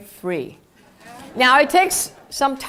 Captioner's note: laugh